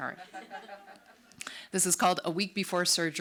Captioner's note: audience laughs